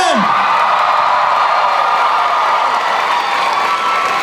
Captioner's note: cheering